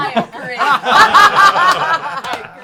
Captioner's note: laughter